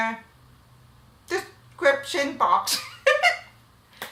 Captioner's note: laughs